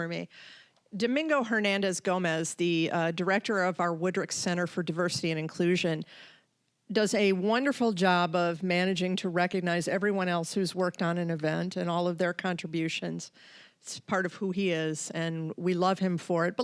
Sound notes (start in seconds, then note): none